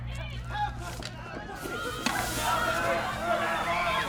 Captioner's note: mob shouting again; mob panic; screams; tear gas hissing